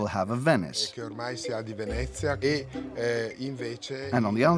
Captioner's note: Italian spoken audio